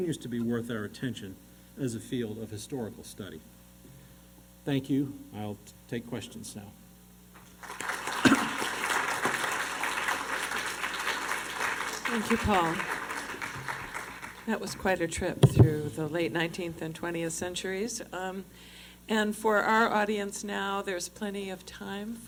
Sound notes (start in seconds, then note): 7.3 applause